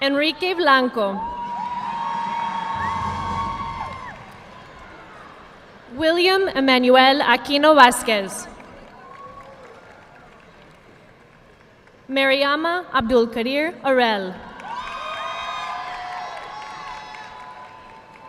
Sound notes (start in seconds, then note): 1.6 audience clapping; 8.6 audience applauding; 14.6 audience applauding